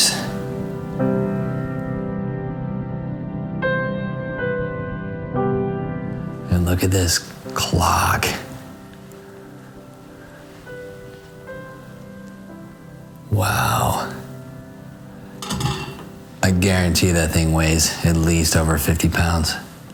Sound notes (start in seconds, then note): 1.0 somber music; 16.0 clock rattling